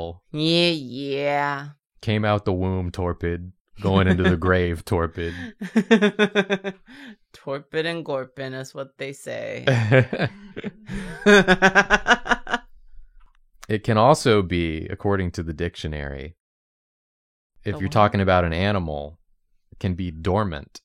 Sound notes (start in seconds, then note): 9.6 laughs